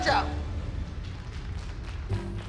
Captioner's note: all applauding